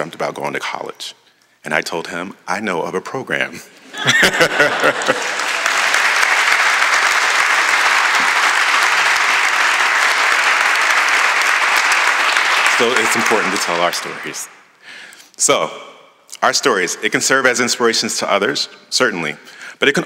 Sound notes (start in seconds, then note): 3.8 laughter; 4.1 applause